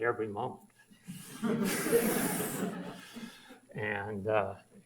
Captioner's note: audience laughs